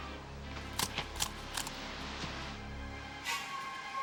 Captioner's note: grass rustling